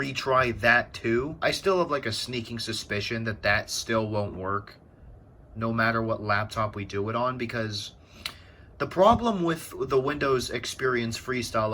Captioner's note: tch